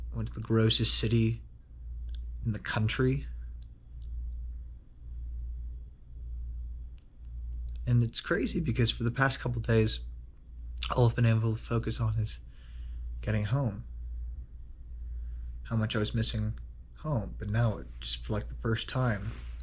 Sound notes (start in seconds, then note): none